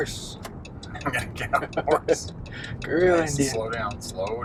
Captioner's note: laughs